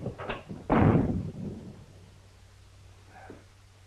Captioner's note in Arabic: يُغلق الباب بقوة